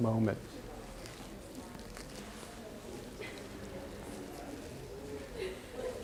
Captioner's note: chatter